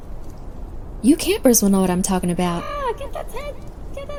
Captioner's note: wind blows